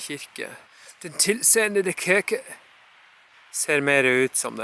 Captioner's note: speaking danish, again